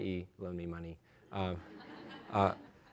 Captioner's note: laughter